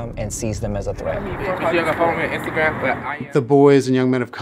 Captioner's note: chatter